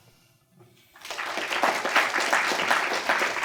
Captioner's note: applause